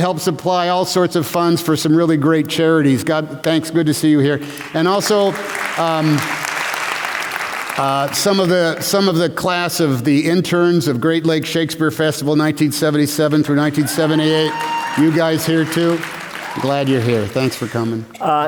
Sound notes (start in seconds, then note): 4.4 applause; 13.6 cheers